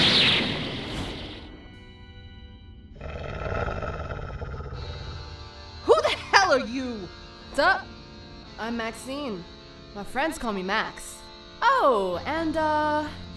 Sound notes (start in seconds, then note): 2.9 growls in anger